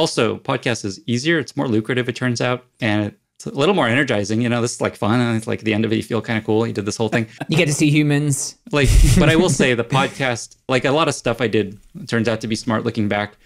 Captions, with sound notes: - It's also, podcast is easier. It's more lucrative it turns out, and it's a little more energizing, you know, this is like fun and it's like the end of it you feel kind of cool. You did this whole thing. - You get to see humans. (chuckles) - But I will say, the podcast, like a lot of stuff I did turns out to be smart looking back,